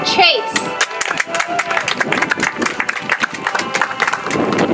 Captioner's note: audience applauds; soft music